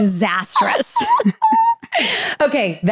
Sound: laughs

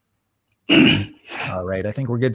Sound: clears throat

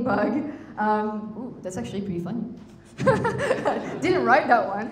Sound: chuckles

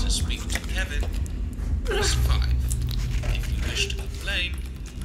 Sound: GARY whimpers as he cuts off another finger

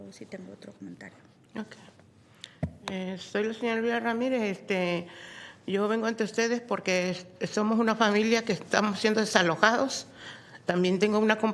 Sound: speaking spanish

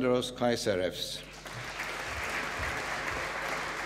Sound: applause

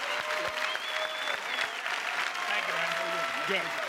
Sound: applause; cheers and applause

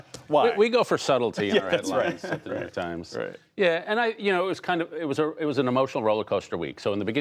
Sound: laughter

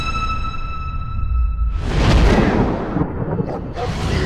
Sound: truenos

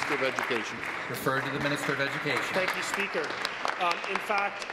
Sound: applause

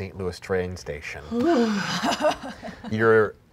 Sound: sighing

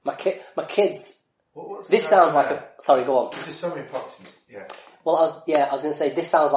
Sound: laughs

